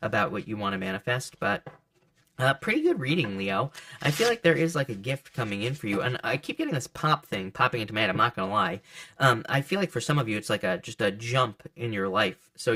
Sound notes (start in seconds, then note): 1.8 cards thud softly; 3.7 cards shuffling